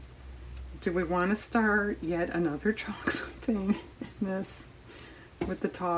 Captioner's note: laughs